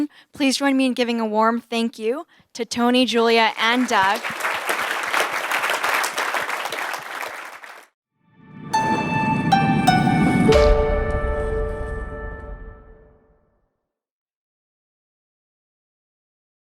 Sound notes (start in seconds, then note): 3.4 applause